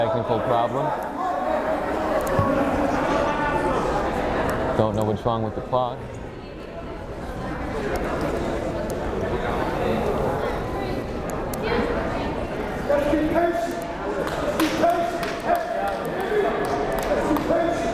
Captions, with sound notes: Some technical problem. Don't know what's wrong with the clock. (crowd murmuring)